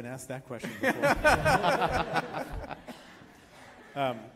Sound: laughs

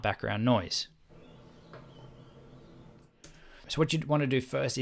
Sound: air conditioner humming

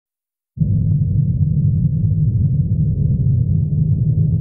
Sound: distant rumbling

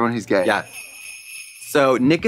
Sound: sleigh bells jingling

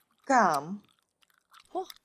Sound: chewing

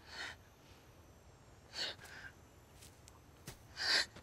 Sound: Nova crying

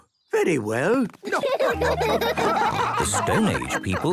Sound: laughing

